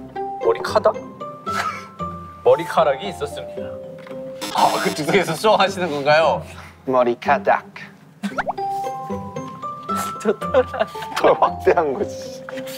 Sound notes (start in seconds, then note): 8.0 laughing